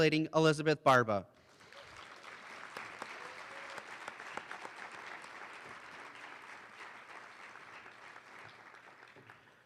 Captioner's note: applause